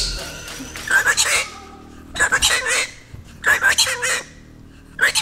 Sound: bird squawking

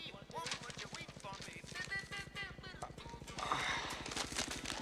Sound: sighs

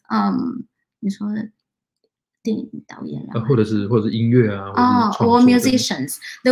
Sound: speaks chinese

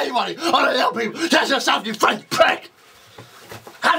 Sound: angry intelligible

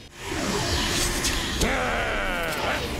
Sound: growls

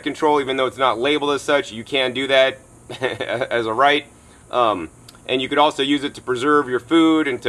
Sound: laughs

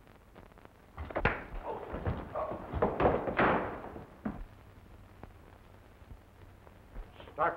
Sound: fist thuds; Charlie grunts

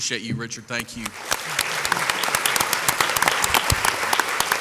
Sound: crowd applauds

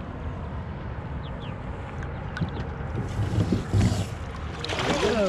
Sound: birds chirping; fish splashing

